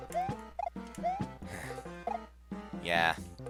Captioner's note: sigh